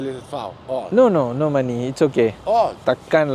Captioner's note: speaking Arabic; speaking Arabic